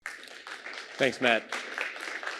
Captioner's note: applause